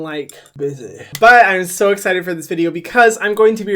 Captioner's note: clapping